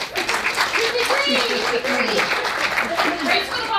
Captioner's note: audience applauds